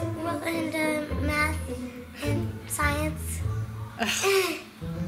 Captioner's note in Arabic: يضحك